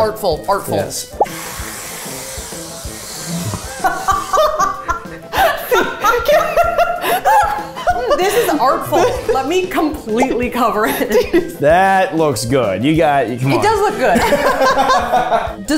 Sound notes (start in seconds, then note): 1.2 whipped cream hissing; 3.6 laughing; 14.0 all laughing